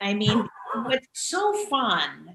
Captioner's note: laughing